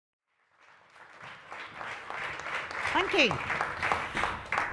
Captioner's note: audience applauds